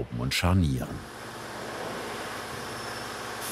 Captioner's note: machine noises